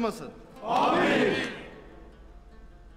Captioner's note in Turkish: Hep bir ağızdan